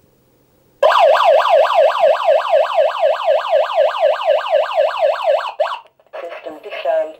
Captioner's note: alarm Siren